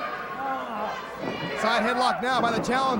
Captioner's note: crowd chatter